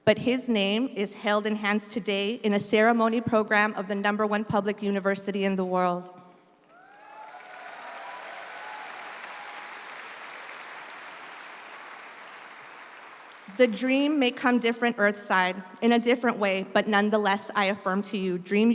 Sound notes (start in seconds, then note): 6.6 audience applauds